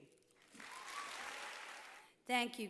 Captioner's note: applause